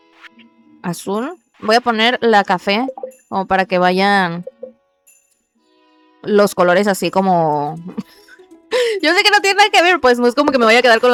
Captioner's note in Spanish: risas